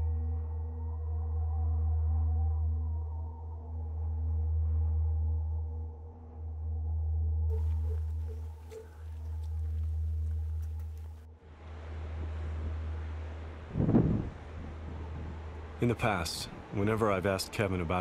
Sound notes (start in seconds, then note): 13.9 wind rustling